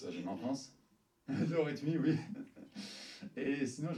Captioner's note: laughs